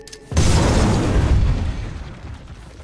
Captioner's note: explosion booms